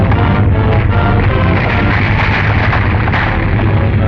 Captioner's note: rocks crashing